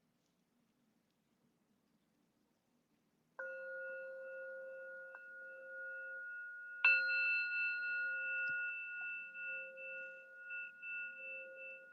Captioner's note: sound of Gong